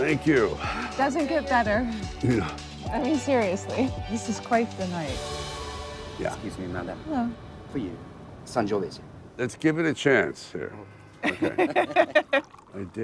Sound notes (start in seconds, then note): 8.5 speaking in a foreign language; 11.2 laughing